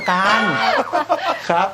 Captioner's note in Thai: หัวเราะ